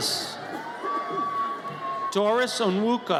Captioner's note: audience cheers